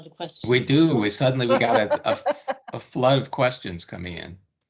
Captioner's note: laughing